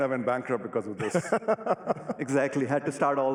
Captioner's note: laughs